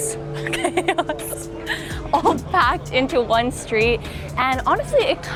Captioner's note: laughs